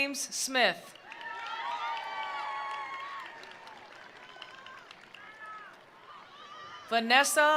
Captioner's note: attendees applauding; attendees cheering